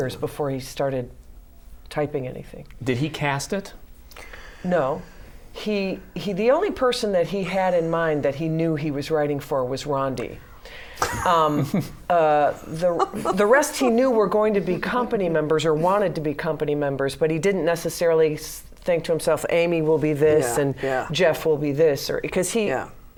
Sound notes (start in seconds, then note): 12.5 laughter